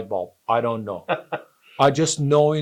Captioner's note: laughs